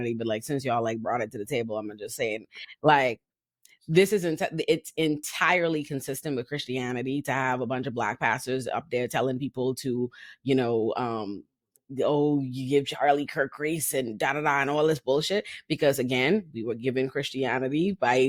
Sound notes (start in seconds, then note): none